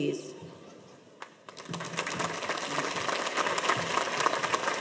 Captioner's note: audience applauds